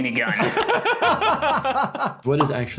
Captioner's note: laughing